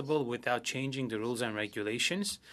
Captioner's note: speaking French